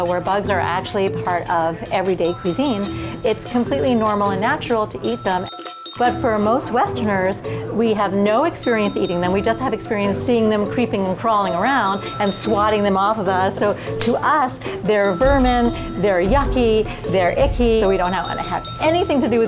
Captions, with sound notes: where bugs are actually a part of everyday cuisine, it's completely normal and natural to eat them, (bugs crunching) but for most westerners, we have no experience eating them, we just have experience seeing them creeping and crawling around and swatting them off of us, so to us, they're vermin, they're yucky, they're icky, so we do not want to have anything to do